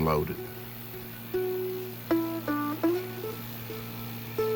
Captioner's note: boat engine droning